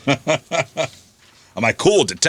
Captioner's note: laughing